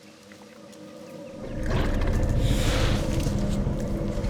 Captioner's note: growling